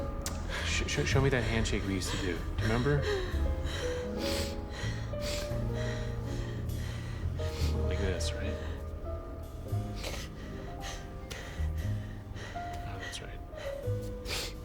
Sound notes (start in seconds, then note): 1.8 breaths heavily, sniffles; 9.8 sniffles